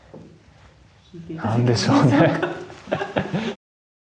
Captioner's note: laughs